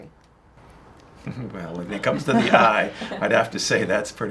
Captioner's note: giggling